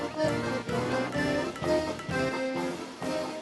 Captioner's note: plink! Plink! Plink! Plink!